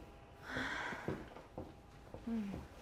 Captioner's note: Aleks exhales